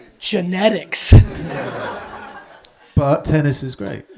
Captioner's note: audience laughs